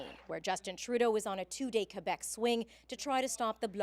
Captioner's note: applause